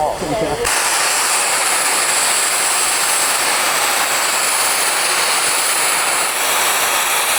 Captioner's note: extreamly loud boom and hissing noise